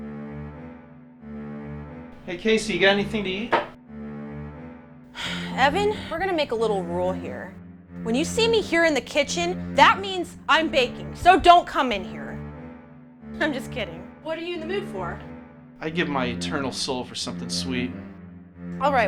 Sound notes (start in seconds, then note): 0.3 spooky music; 5.2 sighs